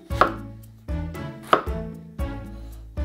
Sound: knife chopping

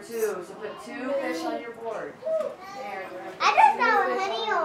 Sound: background classroom chatter

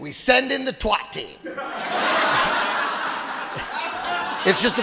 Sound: audience laughing

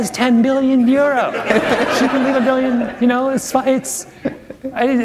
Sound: laughter

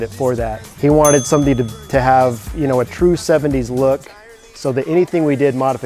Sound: notification bell dings for pro tip

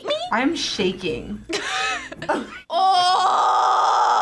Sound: both laugh

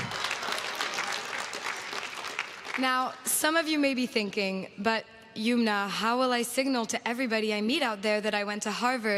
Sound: applause

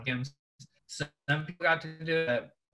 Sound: audio warps

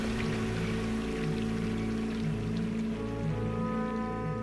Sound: water trickles

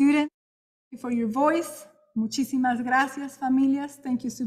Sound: speaking in Spanish

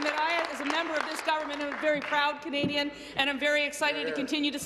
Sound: applause

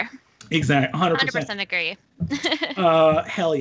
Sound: laughs

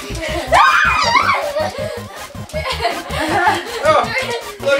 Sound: kids squealing

